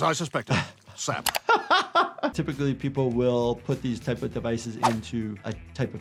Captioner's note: laughs